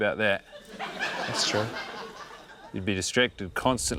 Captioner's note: laughter